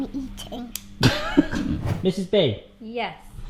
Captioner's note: laughs